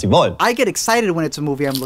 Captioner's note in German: englisch